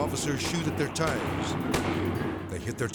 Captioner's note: shots firing